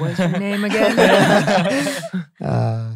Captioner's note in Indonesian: tertawa